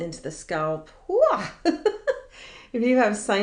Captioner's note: laughing